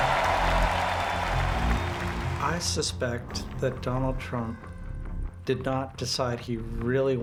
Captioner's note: crowd cheering; crowd continues to cheer